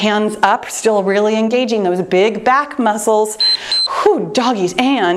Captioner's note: timer beeps